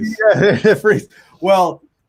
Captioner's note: chuckles